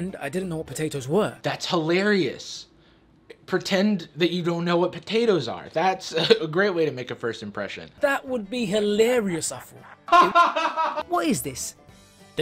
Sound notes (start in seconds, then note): 9.8 laughs